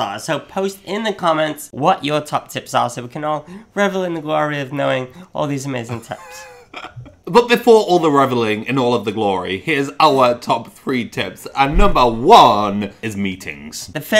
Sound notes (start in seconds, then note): 5.9 laughs